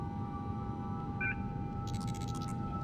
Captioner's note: device beeps